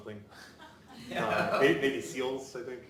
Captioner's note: audience laughing